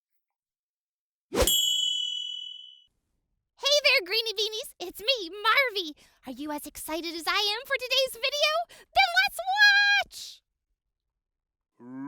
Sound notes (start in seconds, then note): 0.2 whooshing; 1.4 bell ringing